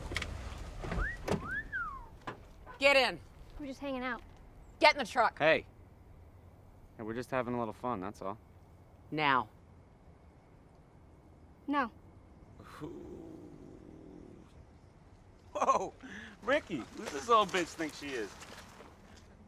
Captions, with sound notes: (whistling) - Get in. - We're just hangin' out. - Get in the truck. - Hey! Now we're just having a little fun, that's all. - Now. - No. - Woah, Ricky, who this little bitch think she is?